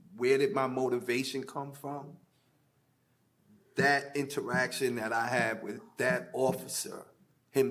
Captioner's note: none